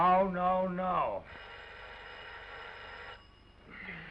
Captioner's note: phone ringing